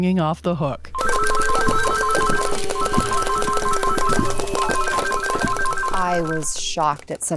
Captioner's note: phone repeatedly ringing